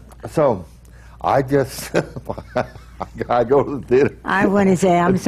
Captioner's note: laughs